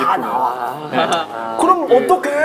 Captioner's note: laughing